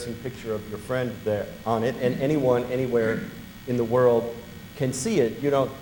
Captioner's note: all laugh